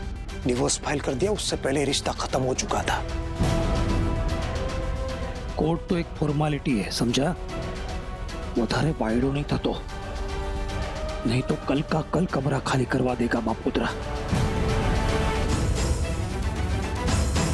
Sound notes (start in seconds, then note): 8.3 speaking in regional language; 14.2 dramatic music